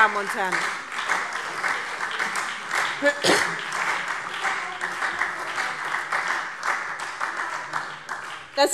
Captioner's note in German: Beifall SPD und Freie Demokraten